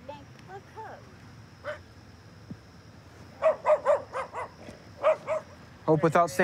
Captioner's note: dog barking